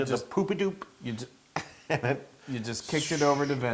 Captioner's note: laugh